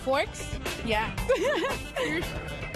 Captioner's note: chuckles